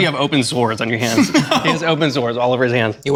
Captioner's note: laughing